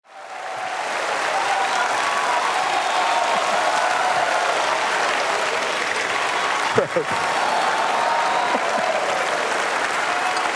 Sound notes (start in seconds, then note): 0.0 applause